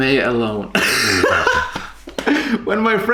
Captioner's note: both laugh